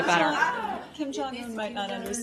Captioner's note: laughter